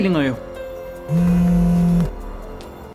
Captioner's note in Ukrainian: дзвінок